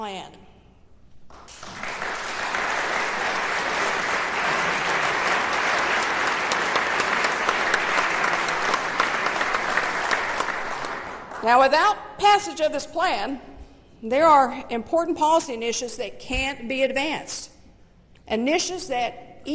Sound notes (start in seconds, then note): 5.3 applause